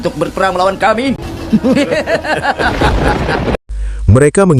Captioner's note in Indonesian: tertawa